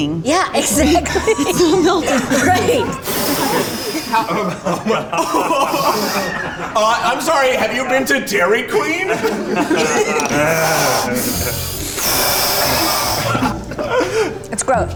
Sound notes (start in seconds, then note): 0.6 women laughing; 3.0 guys laughing; 3.0 exhales loudly; 10.5 breathing explosively